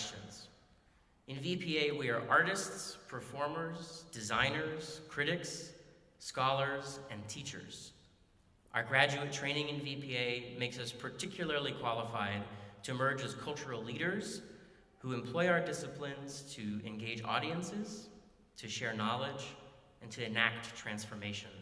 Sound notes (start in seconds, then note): none